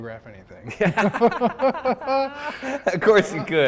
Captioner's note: both laugh